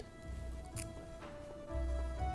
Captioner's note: nom